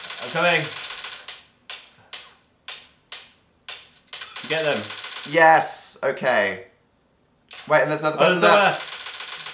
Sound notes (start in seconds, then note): 0.0 gunshots